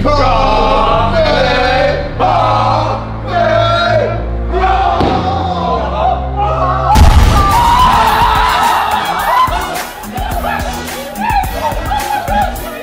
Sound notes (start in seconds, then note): 0.1 lads shouting louder and louder; 6.9 pins smashing; 8.5 lads shouting and screaming